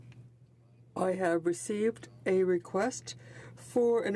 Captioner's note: speaking French